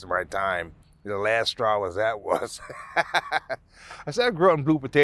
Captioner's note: laughing